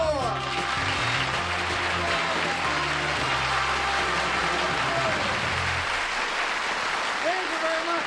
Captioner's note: applause